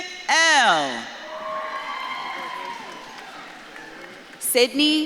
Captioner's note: audience claps and cheers